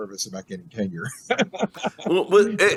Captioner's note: laughs